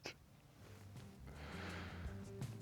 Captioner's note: exhales